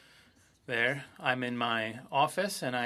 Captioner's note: speaking French